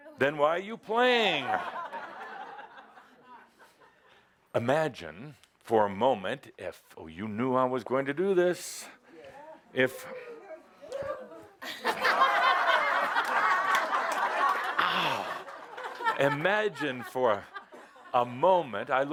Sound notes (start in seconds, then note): 3.1 laughter